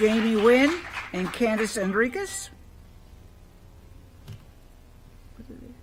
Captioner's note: applause